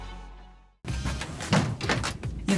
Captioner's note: door clangs; door clicks